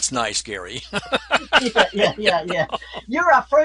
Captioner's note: laughs